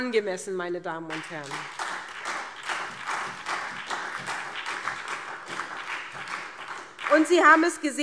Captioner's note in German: Beifall